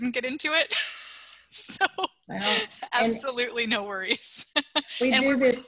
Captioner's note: laughter